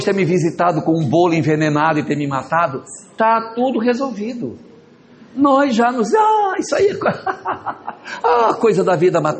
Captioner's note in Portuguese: risadas